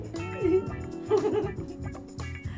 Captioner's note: giggles